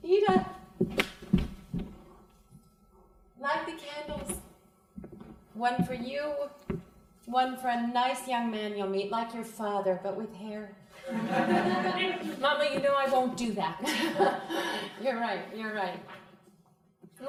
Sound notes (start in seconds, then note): 11.0 crowd laughing; 13.8 laughs